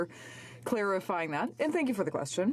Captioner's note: speaking French